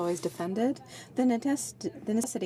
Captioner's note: speaking French